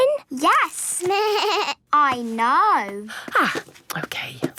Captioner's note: bleating